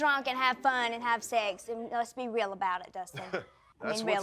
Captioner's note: laughs